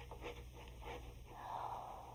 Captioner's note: recording scratching